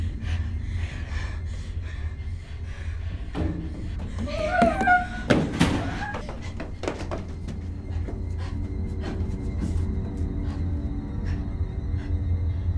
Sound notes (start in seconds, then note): 3.3 footstep thuds; 9.9 ominous music